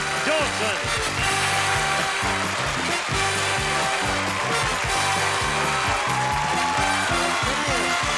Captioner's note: applause